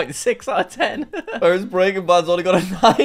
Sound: laughs

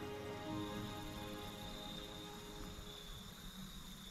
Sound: nature sounds

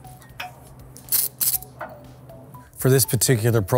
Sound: tool clicking

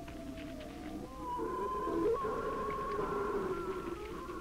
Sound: creature growling

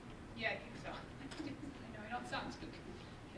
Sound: laughs

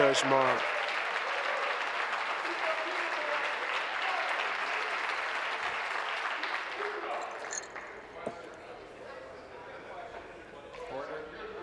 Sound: applause

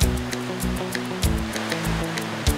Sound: river water flowing; upbeat music

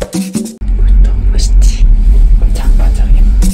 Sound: whispering

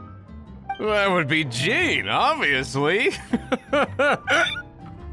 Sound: hic

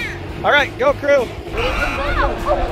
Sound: buzzer

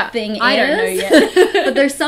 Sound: laughs

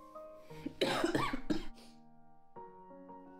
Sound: coughing fit. Begging your pardon

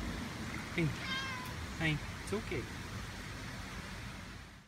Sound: cat meows

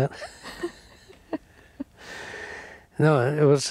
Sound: both laughing

